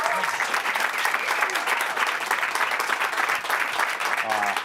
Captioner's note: applause